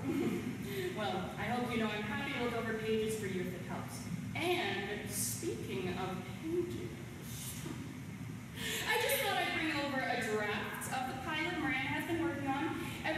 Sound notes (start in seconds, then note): 0.0 chuckles; 7.2 sly chuckle